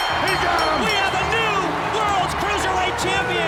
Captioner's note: bell ringing